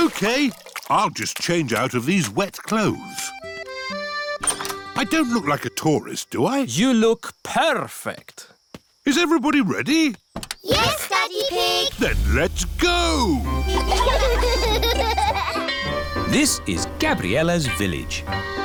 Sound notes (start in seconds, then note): 13.4 giggling